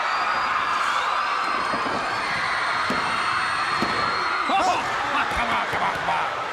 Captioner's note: crowd cheering